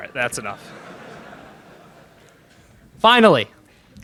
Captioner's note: laughter in crowd